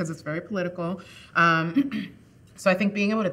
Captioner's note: chuckling